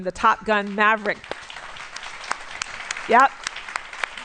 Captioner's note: applause